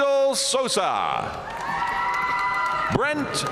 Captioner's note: audience cheering and applauding